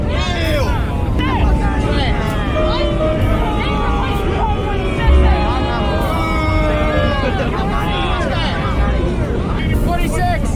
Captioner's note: collective booing